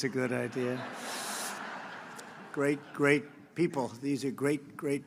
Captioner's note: laughter